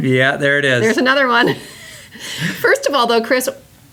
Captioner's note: laughs